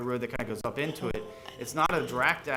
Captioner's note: board chatting quietly